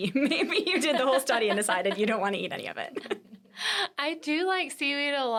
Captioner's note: laughing; laughs